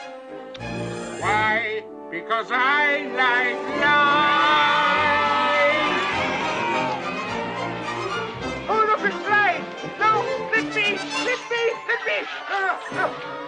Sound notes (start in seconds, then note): 5.3 kids cheer